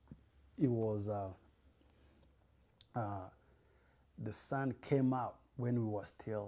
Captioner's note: pauses for 3 seconds